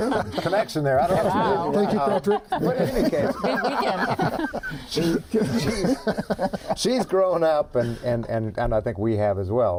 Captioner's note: laughter